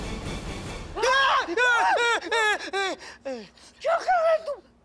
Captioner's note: screaming